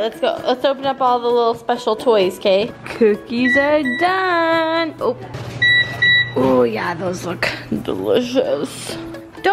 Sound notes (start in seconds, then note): 5.5 alarm beeping